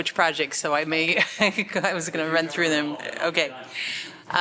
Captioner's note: laughter